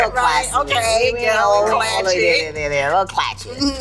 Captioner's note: laughs